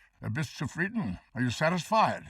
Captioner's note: speaking foreign language